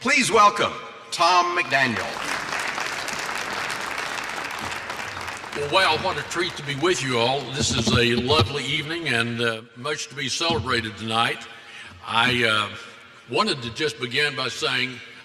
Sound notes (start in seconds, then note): 6.2 applause